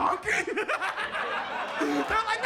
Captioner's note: audience laughs